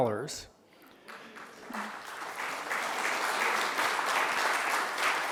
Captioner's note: audience applauding